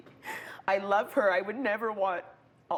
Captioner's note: voice breaking